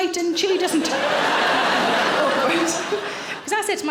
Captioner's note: audience laughing